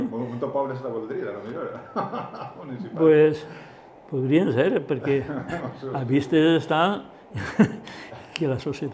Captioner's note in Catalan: Risses